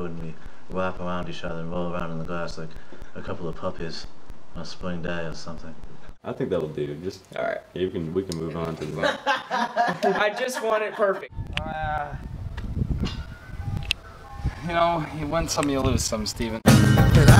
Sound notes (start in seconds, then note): 8.8 laughing